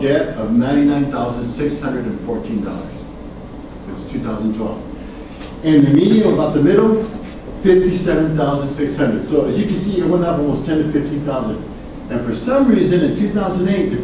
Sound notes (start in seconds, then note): none